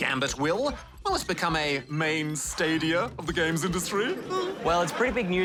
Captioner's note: chuckles